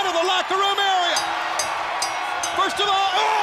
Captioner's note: bell ringing; crowd cheering